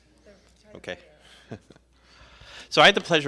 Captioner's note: chuckles